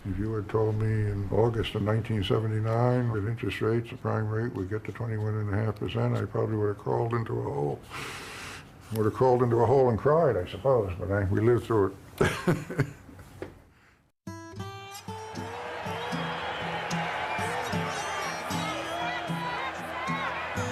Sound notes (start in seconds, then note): 12.4 laughs; 14.9 crowd cheering